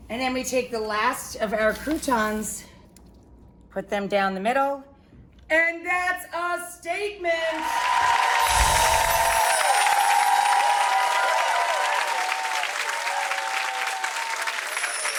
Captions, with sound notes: And then we take the last of our croutons, put them down the middle. And that's a statement! (crowd cheering) (bright chimes)